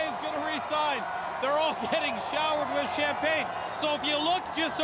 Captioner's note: cheers